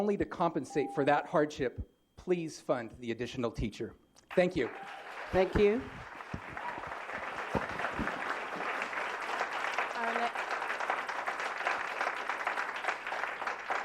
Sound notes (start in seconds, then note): 5.4 applause